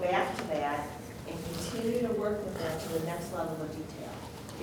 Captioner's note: voice muffled